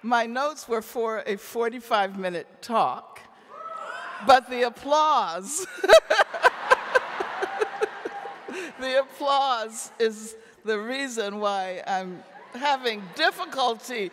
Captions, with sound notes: my notes were for a 45-minute talk, but the applause (laughs) (audience laughing) the applause is the reason why I'm having difficulty